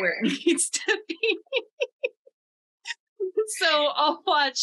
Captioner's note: laughs